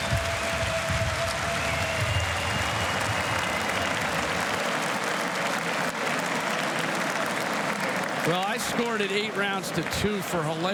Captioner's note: applause